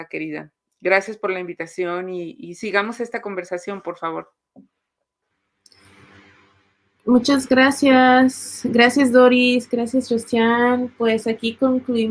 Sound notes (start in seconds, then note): 7.0 speaking Spanish